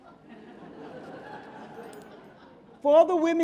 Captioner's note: audience laughing